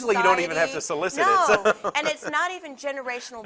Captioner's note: laughs